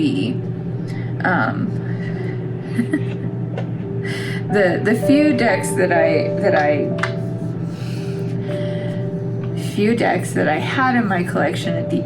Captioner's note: laugh